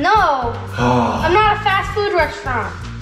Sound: groans

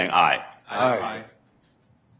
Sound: multiple voices

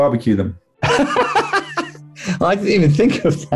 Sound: laughing

